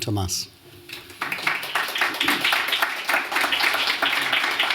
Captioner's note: applause